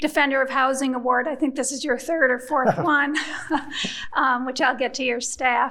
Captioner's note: chuckles